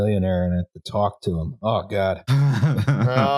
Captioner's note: laughs